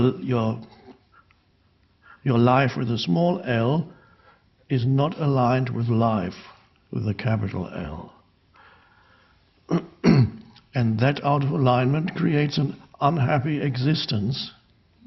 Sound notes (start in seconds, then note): 9.6 clears throat